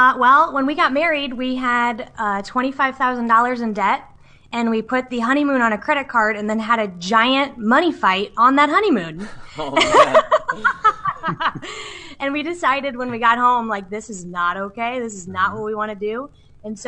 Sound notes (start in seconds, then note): 9.2 laughs